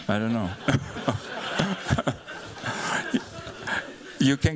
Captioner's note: laughter